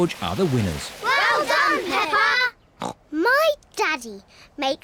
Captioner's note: snorts